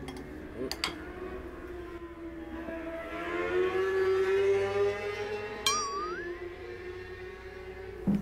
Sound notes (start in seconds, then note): 3.2 A motorcycle suddenly passes